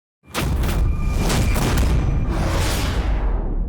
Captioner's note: logo thunks